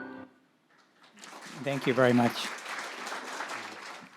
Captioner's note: audience applauds